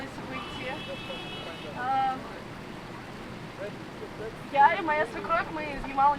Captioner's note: passing cars honk in support